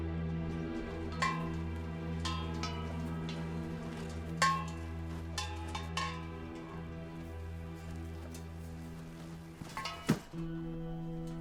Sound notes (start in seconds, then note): 3.3 cans clanking